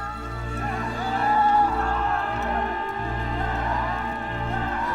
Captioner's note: yelling